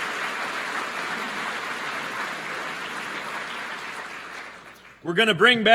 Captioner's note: applause